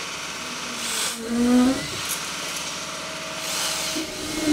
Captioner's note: machine revving